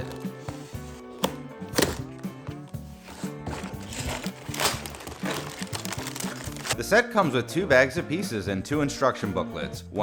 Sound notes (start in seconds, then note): 1.2 upbeat guitar music; 1.7 box ripping open; 3.2 upbeat guitar music